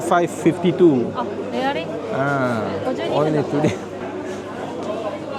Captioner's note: speaking Japanese